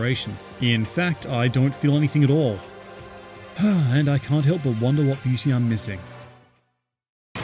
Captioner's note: sigh